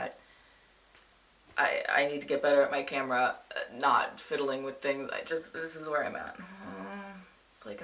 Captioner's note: groans